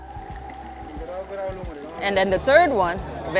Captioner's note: non-english speech